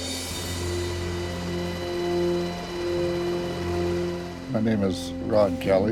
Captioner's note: helicopter blades chopping